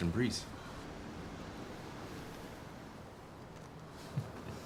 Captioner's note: waves crashing